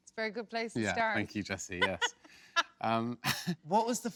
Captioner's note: laughs